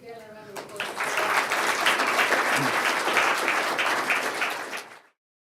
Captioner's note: applause